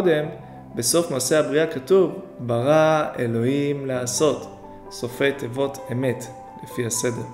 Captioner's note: in Hebrew